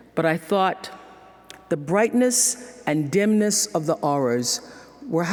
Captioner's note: none